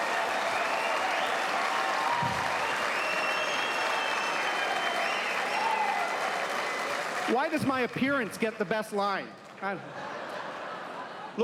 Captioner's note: applause